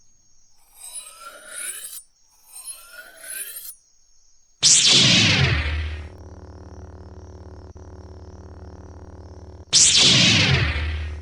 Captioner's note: sounds of turning on the glowing fighting knife